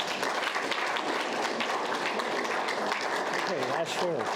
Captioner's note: audience applauds